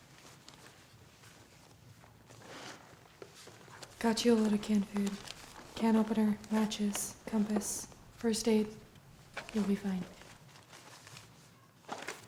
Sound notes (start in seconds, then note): none